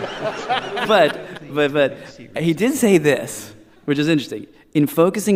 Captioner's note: laughter